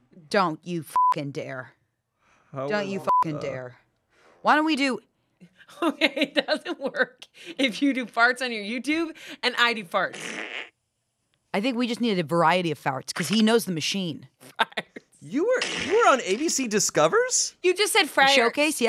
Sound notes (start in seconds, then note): 2.8 beep; 5.6 laughs; 14.5 laughs